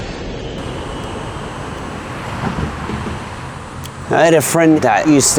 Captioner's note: Traffic